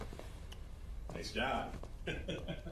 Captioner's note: Ridacchia